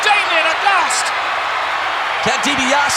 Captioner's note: audience cheering